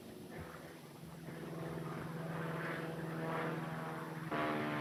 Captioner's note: plane engine whining